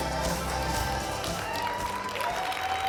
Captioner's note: applause